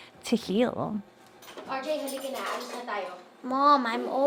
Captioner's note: mom speaking in foreign language